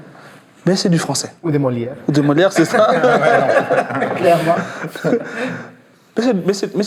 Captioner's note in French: rires